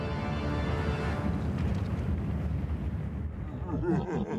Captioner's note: rumbling noise; demonic laughter